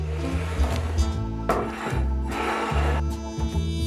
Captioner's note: plate sliding